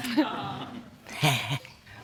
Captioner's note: woman chuckles; chuckles